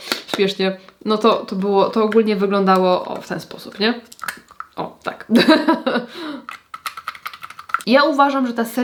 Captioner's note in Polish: śmiech